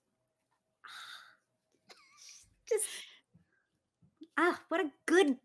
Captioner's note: chuckles